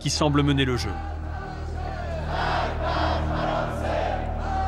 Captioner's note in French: Arabic spoken language